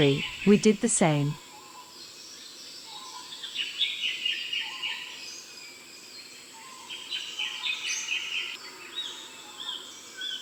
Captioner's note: birds sounds and chirps, low volume music